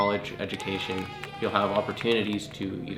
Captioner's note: celebration sounds off screen